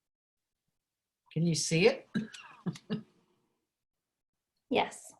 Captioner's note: laughs